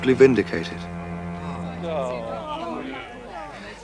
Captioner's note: all exclaiming